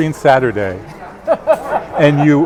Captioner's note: laughing